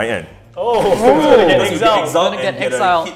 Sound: players chattering

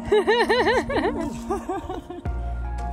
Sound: laughing; gentle upbeat music

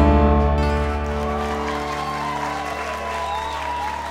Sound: cheers and applause

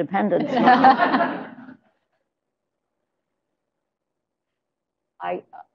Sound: laughter

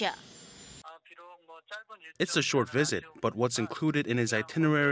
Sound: Korean

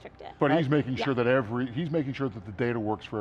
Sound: laughs

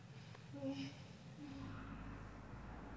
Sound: girl groans

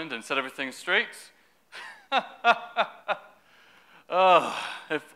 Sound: laughter

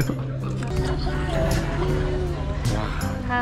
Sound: butter drinking

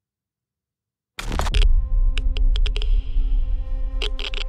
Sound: camera shutter clicks

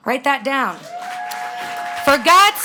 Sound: audience cheering and clapping

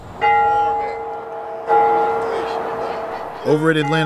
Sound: bell ringing

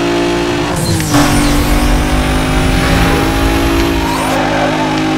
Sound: nitrous oxide hisses, engine roars

